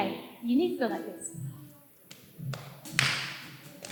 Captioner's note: clap-clap, clap